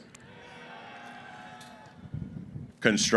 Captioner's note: cheering